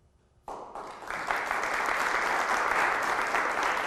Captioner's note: audience applause